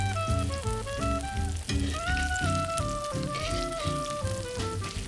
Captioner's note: pan sizzling continues